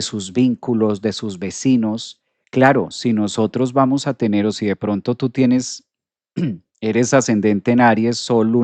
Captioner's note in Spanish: carraspeo